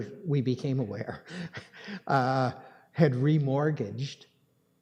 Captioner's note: chuckles